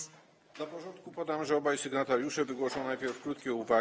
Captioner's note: speaking polish